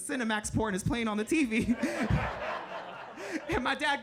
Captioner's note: chuckling; audience laughing